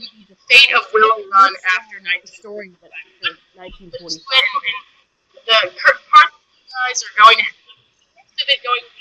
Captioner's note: audio cutting out